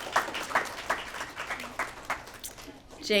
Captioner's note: applause